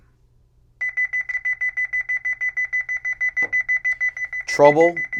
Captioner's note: beeping